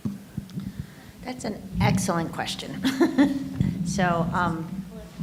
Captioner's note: laughs